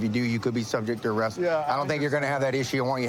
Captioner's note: none